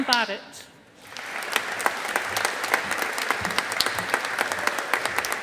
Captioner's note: audience applauding